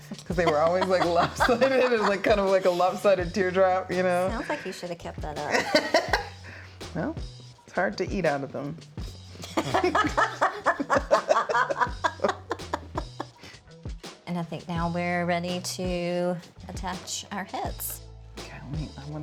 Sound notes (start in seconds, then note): 5.9 laughs; 9.4 both laughing